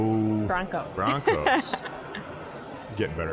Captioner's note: laughing